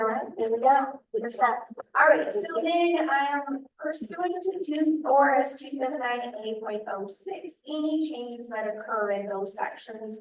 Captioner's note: laughs